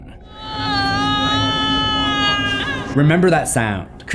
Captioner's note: wailing sound